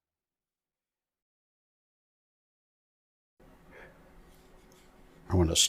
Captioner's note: silence